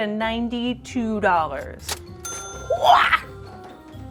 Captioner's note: ding